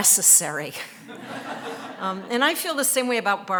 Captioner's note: audience laughing